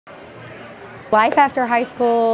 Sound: crowd Noise

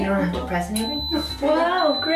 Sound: beeping

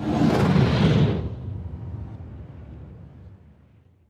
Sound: whoosh

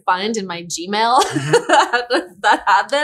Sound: laughter

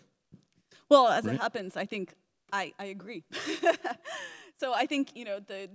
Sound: laughs

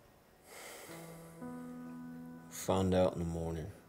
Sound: sighs

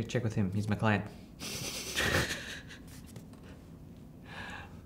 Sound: laughter

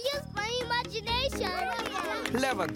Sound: cheering

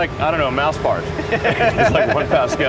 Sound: laughs

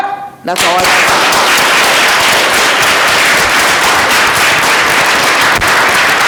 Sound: drowned out by applause

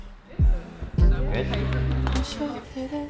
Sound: hands clapping

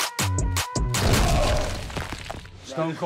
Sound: Sylvester crashes

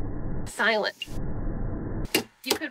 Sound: whoosh

